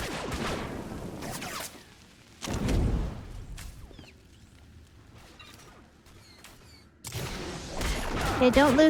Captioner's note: gunshots